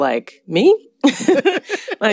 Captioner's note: laughter